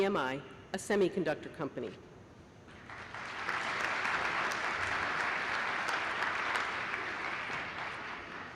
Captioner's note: applause